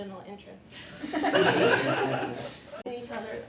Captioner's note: laughter